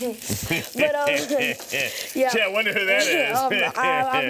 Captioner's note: laughing